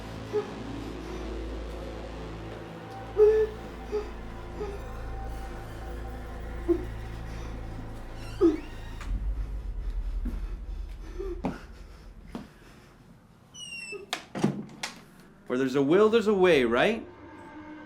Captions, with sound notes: (door squeaking) - Where there's a will, there's a way, right?